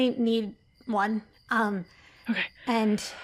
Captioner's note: takes a deep breath